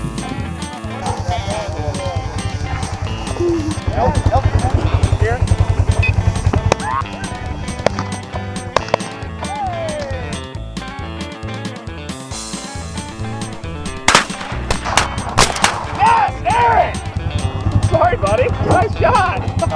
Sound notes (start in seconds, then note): 8.8 shotguns; 9.4 cheering